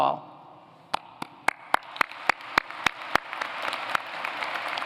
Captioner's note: applause